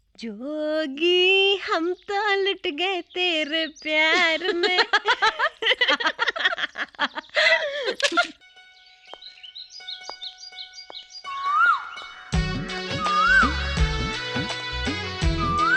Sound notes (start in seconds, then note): 4.0 laughing; 9.1 birds - Chirping